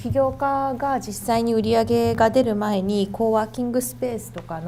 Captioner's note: speaking foreign language